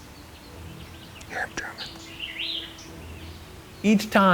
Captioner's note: whispering